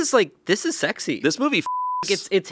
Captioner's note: beeping